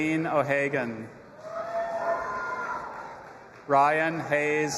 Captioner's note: audience applauding and cheering